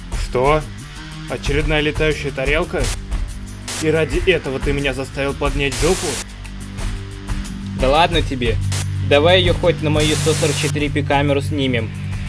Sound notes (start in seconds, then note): 5.3 static; 7.4 interference; 9.4 static